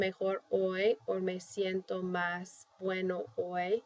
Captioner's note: spanish; speaking spanish